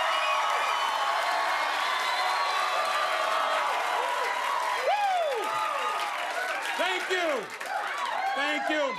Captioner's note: cheers and applause